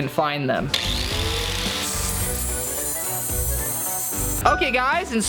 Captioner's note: grinder whirring